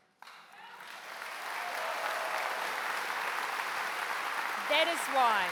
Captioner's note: applause